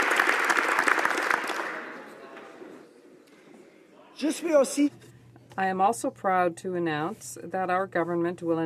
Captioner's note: applause